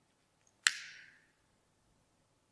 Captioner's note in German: Feuerzeug-Klicken